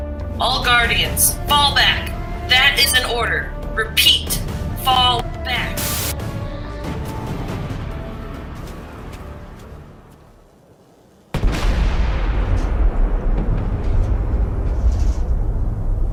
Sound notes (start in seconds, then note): 5.4 static